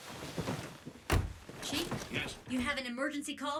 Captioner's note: over comms